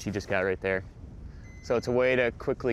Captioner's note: beeping